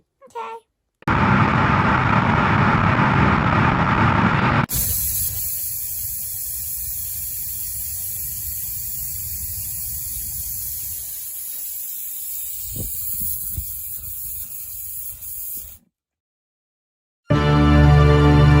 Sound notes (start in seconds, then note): 1.0 rocket blast